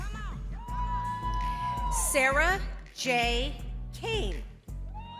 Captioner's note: crowd cheering